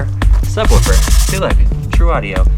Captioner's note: fingers rubbing